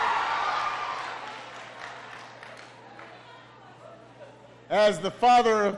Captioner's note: applause